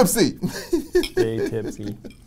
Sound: laughs

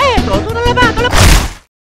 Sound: punch

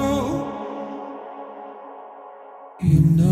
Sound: echo

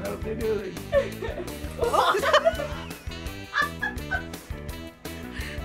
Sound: both laugh

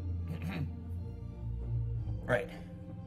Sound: cough

